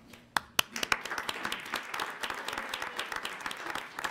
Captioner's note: audience applauds